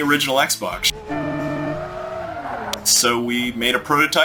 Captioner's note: car engine roaring